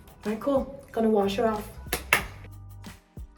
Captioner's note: claps